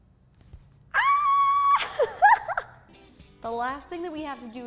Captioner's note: screams